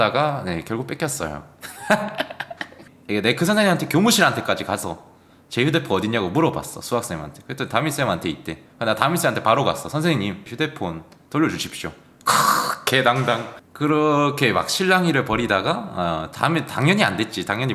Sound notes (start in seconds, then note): 1.6 laughs